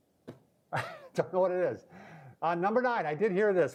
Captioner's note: laughing